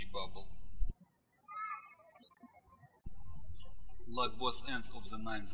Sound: birds chirping

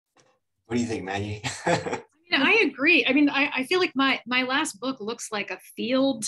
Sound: laughs

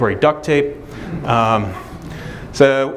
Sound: audience laughter

